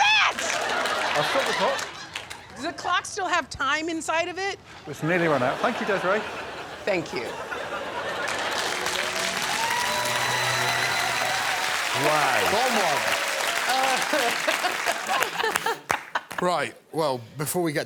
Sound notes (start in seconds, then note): 10.5 cheers and applause; 13.7 Desiree laughs